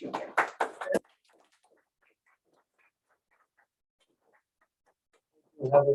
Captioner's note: applause